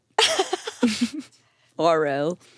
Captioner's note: everyone laughs